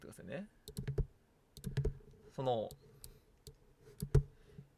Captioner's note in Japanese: none